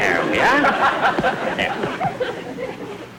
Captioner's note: audience Laughing